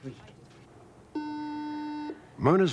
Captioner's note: beeping sound